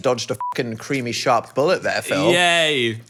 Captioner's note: beep